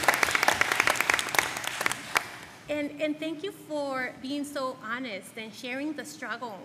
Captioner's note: applause